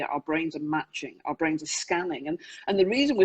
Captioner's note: none